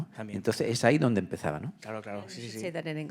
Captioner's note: speaking in Spanish